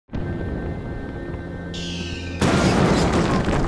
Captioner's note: sounds of war; explosions and machine gun fire